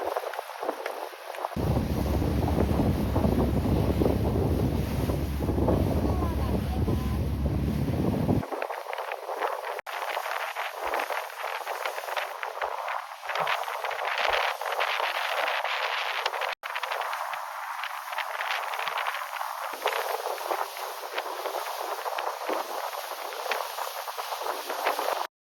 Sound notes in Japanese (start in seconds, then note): 0.1 風の音; 8.9 風と水しぶきの音